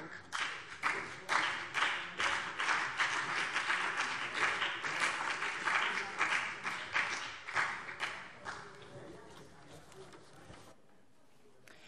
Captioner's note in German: Beifall BÜNDNIS 90/DIE GRÜNEN